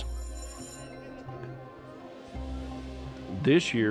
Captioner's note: school bell ringing